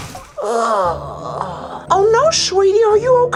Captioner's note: groans